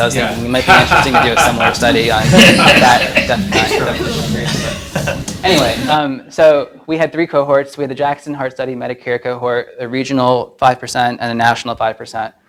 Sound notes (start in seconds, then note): 3.2 audience laughs